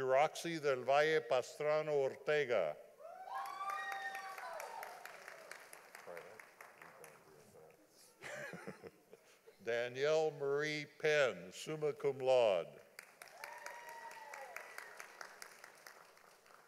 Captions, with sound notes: Jeroxi del Valla Pastrono Ortega. (audience applauding) (laughing) Danielle Marie Penn, summa cum laude. (audience applauding)